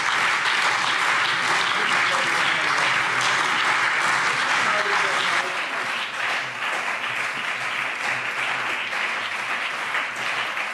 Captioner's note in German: Beifall CDU, BÜNDNIS 90/DIE GRÜNEN, SPD und vereinzelt Freie Demokraten